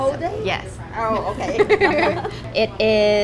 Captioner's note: laughing